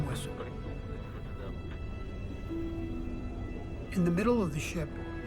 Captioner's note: man speaking in foreign language